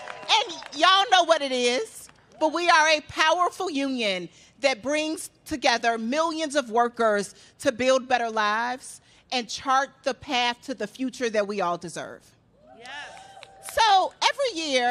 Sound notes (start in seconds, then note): 0.0 cheers and applause; 0.0 applause